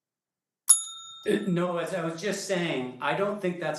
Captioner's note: time limit warning bell sounds